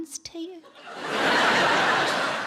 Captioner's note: audience laughs